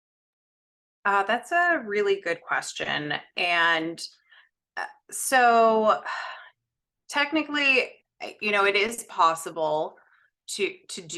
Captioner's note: sighs